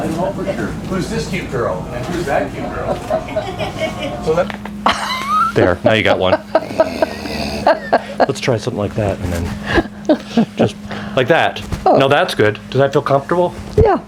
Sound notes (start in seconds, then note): 6.1 laughing